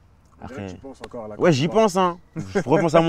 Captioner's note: laughs